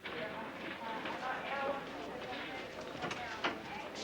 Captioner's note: people chattering